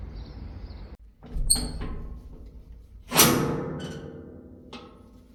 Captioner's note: creaking latch followed by a thunk